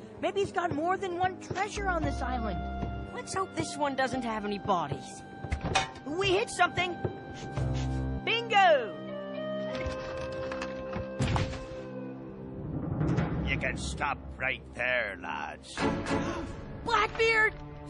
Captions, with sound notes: MAYBE HE'S GOT MORE THAN ONE TREASURE ON THIS ISLAND. - LET'S HOPE THIS ONE DOESN'T HAVE ANY BODIES. clank! - WE HIT SOMETHING. BINGO! - YOU CAN STOP RIGHT THERE, LADS. [all gasp] - BLACKBEARD!